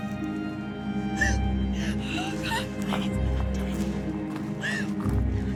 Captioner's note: crying